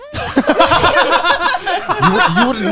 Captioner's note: laughing